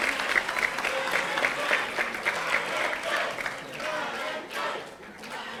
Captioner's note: audience applauding; audience chanting